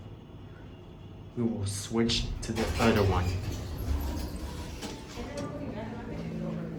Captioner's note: door Opens